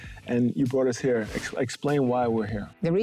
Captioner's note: air whooshing